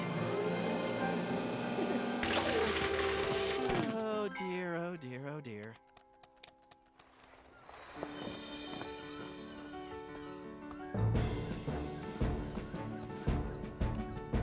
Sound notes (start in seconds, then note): 0.0 hydraulic Whir; 2.2 Crunch